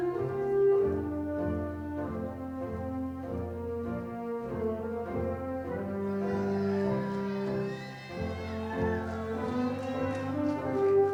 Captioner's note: applause